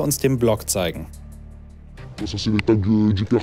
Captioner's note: distorted, French